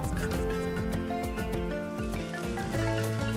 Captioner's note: sizzling